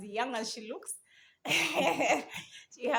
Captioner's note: both laugh